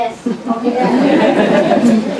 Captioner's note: laughter